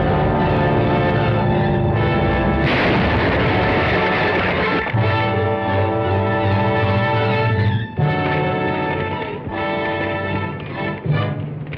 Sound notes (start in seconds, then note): 2.5 metal banging